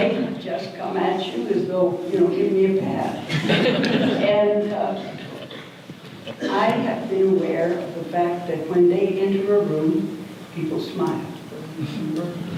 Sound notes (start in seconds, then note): 3.2 audience laughter